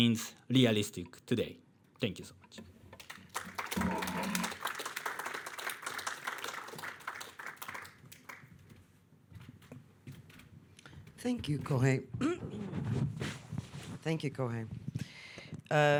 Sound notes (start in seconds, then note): 3.0 audience clapping